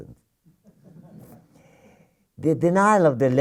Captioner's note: laughter